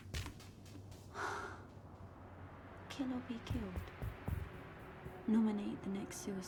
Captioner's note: tense dramatic music; sighs